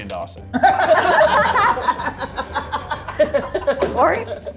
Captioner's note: group laughs